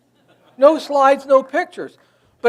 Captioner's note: audience laughs